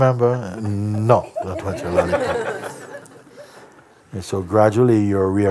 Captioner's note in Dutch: gelach